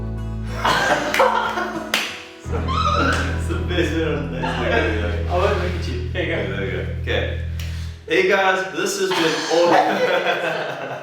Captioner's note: laughing